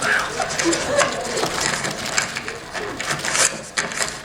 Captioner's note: wriggle